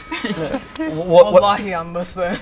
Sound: group chuckle; speaks in foreign language

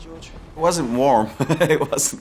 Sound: laughs

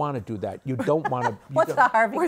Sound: laughs

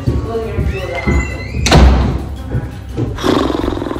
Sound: door closing

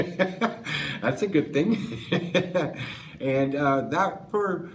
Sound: laughs

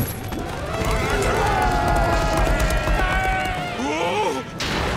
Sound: yelling

